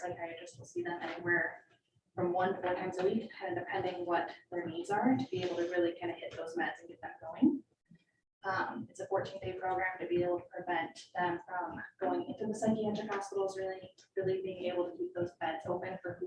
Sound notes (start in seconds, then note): none